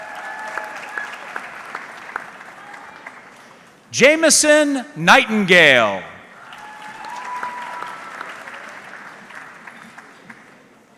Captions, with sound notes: (audience clapping) Jameson Nightingale. (audience clapping)